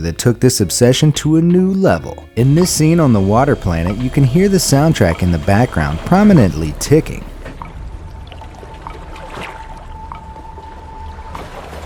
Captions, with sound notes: that took this obsession to a new level. In this scene on the water planet you can hear the soundtrack in the background prominently ticking. (ticking) (rushing water)